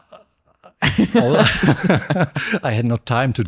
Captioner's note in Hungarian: nevetés